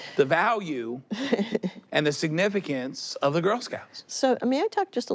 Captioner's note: she chuckles